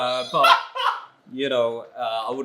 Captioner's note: continues laughing